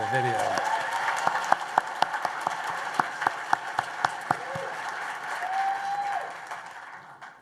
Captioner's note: applause and cheers